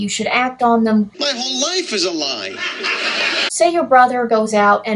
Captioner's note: laugh track